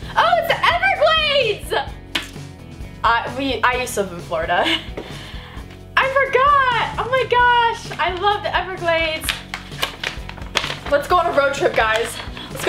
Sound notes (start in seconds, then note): 9.1 map crinkles